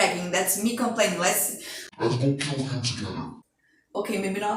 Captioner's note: in deep voice